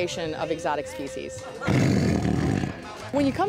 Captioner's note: tiger growls